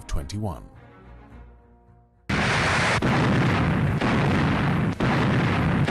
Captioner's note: guns firing